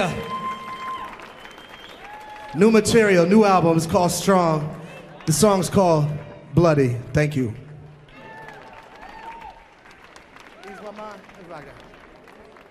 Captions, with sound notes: Yeah. New material, new albums called Strong. The song's called Bloody. Thank you. [audience cheering]